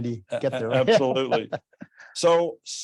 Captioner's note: chuckles